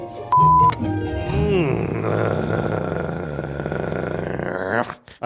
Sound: growling

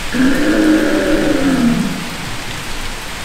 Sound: roaring

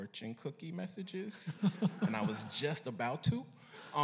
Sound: laughter

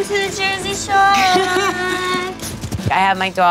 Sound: JWoww laughing

